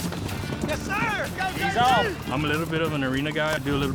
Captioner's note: cowboys cheering